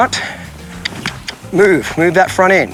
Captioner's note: mouth clicking